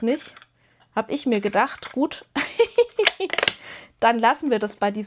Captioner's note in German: gelächter